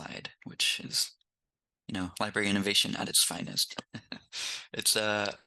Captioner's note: laughs